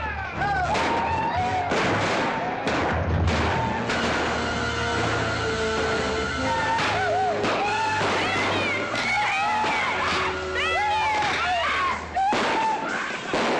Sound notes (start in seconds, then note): 0.1 whooping & hollering; 1.6 commotion & gunshots; 3.9 dramatic music; 10.3 commotion & gunshots; 12.0 dramatic music; 12.2 commotion & gunshots